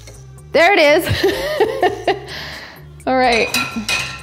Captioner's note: laughs